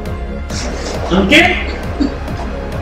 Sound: snivel

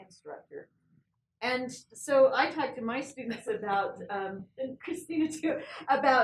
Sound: laugh

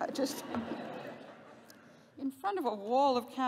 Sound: laughter

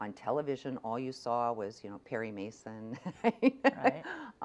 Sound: laughs

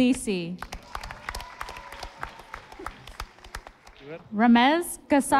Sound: audience applauding

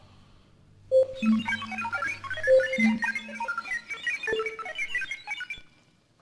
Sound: beep happily

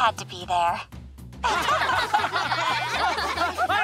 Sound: all laughing

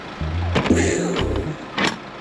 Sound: explosion sound effect

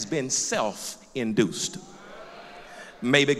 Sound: loud crowd agreement

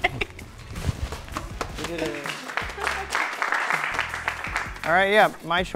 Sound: group applauding

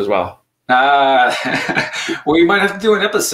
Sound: laughing

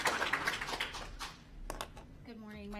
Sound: applause

